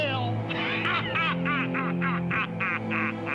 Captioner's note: grinch laughing maniacally